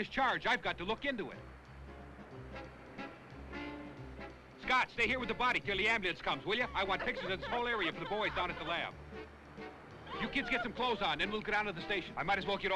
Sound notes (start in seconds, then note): 1.4 tense jazz music; 10.0 Sue crying